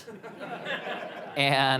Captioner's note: audience members laugh